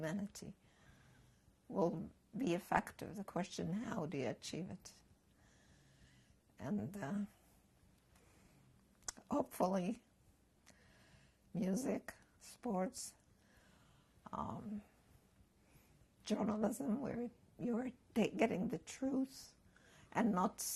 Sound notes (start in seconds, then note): 12.3 pauses for 3 seconds